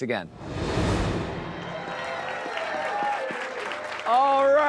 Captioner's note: people cheering and clapping